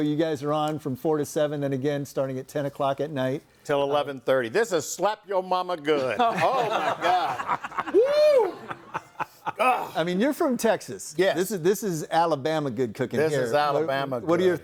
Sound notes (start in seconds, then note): 6.0 group laughs; 8.9 laughs